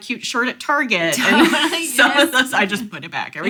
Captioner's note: laughs